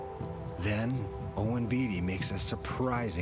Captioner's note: voiceover